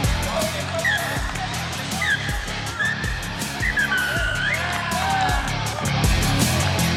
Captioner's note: whistle and cheers